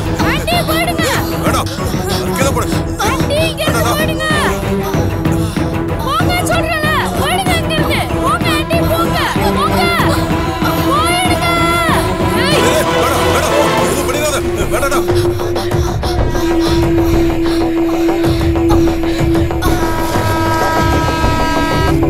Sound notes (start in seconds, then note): 19.5 train horn blares